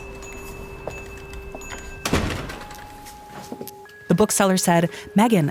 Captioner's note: bell ringing; door slamming; footsteps tapping; door slamming